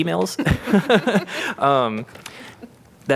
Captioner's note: laughter